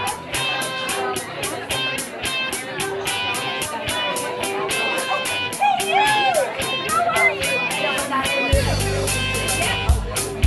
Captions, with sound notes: - Hey, you! How are you? (chatter continues)